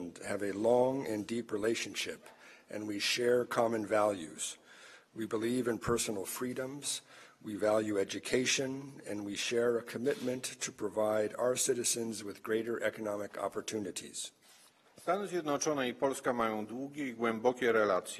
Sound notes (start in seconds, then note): 15.9 speaking polish